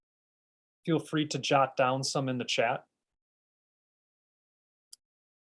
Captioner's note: silence while writing in the chat